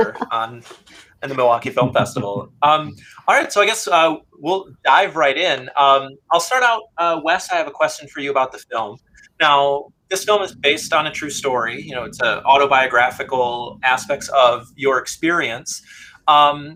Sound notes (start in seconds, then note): 3.3 all chuckling